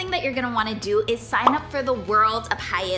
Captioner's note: bubble popping